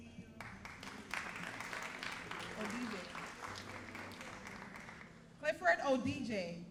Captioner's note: all applauding